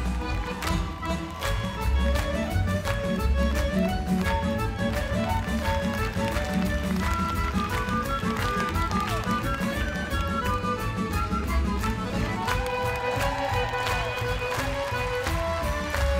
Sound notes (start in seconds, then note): 3.2 ukrainian folk music; 5.2 all clap; 7.6 crowd cheers; 11.8 dancers cheer